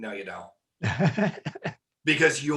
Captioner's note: laughing